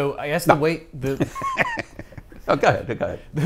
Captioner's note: laughs; chuckles